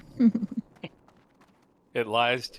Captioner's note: laughter